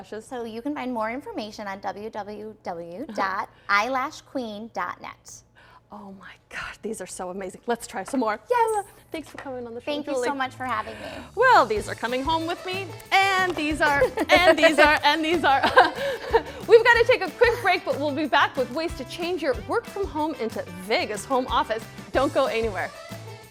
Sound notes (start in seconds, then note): 12.3 upbeat music; 13.9 laughing; 15.5 chuckling; 23.3 upbeat music